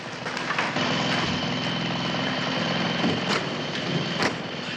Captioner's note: motor running